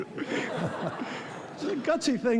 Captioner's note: audience laughs